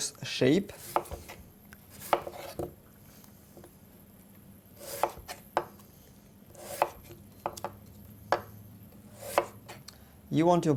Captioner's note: cutting sounds